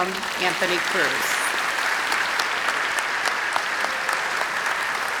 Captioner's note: applause